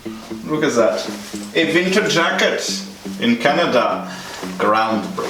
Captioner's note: German accent